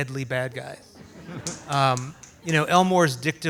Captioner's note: audience laughs